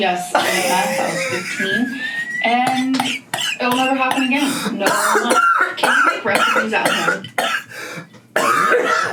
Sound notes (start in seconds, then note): 1.2 laughs; 4.7 coughs